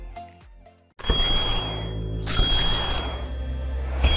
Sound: alarm rings

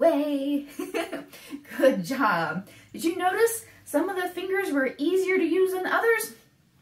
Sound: laughs

